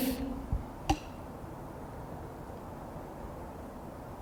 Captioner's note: tapping